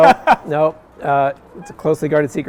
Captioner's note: laughing